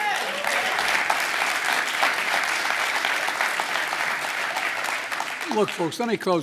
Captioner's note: applause